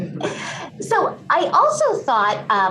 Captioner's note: laughter